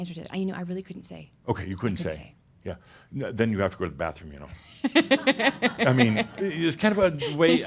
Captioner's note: she laughs